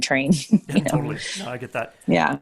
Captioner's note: chuckling